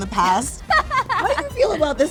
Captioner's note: laughing